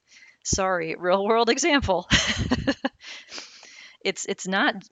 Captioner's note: laughing